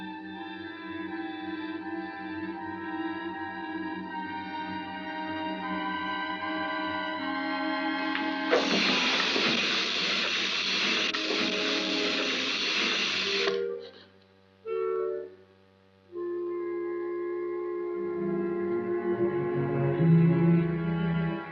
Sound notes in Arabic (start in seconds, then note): 8.5 تزحف الدمية وتُصدر صوتًا خافتًا; 17.8 موسيقى مُشوقة